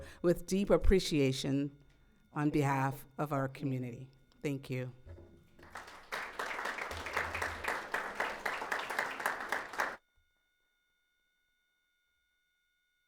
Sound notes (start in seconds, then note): 5.6 audience applauds